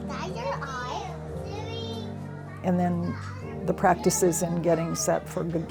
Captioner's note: children talking